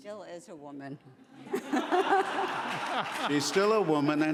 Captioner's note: laughing